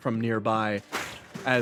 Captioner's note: vent Crashing Noises